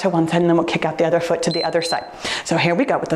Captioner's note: timer beeps